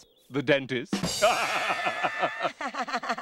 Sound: both laughing

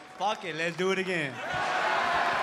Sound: cheering

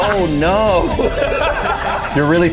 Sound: everybody laughing

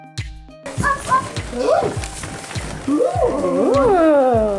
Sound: children whooping

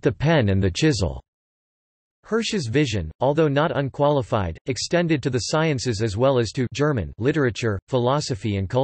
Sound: German

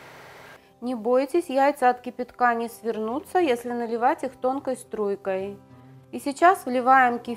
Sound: boiling water

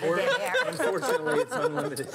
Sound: laughing

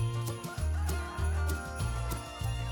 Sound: rooster crows

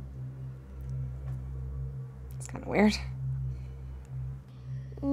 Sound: none

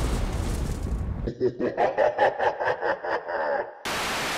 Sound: evil laugh

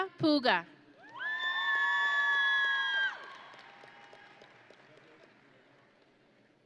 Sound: audience and graduates cheering

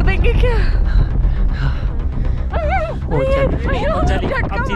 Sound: hard breathing

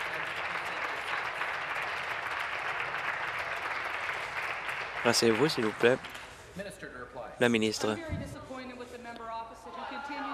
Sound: applause

